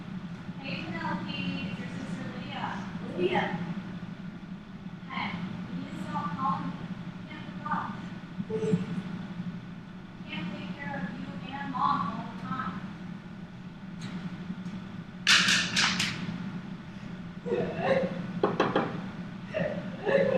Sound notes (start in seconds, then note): 17.5 crying; 18.4 knocking